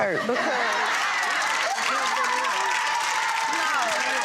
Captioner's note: audience laughing